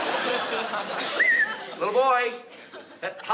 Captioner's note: whistles